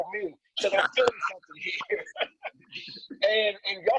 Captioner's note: laughs